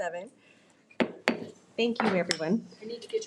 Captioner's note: gravel bangs